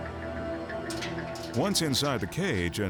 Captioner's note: cage door clanking